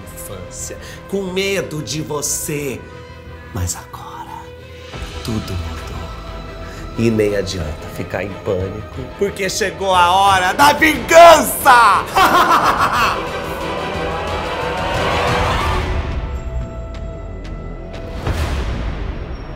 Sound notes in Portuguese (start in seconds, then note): 12.0 riso maligno; 13.2 música de tensão